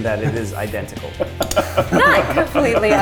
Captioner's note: laughs